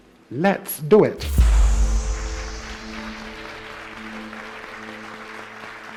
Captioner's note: audience applauding